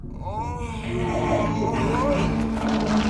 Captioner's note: unsettling moaning